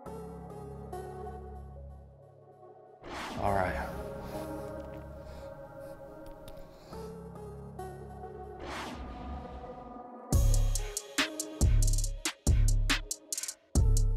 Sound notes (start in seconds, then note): 0.3 upbeat music; 3.7 air whooshing; 8.9 air whooshing; 10.3 upbeat music